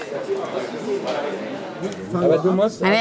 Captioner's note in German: Stimmengewirr